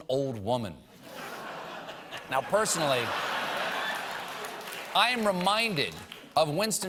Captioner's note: laughter